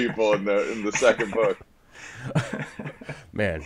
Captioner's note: all laughing